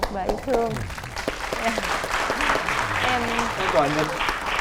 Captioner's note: applause